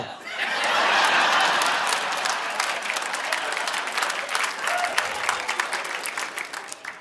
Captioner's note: audience laughing; audience applauding